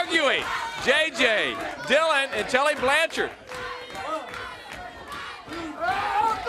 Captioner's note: crowd cheering